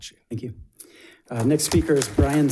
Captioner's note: audience applauds